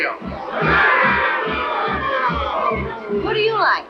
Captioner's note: crowd boos